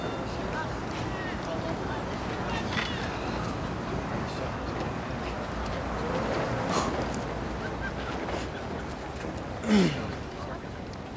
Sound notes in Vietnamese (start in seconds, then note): 6.3 Scat thở phào; 9.6 e hèm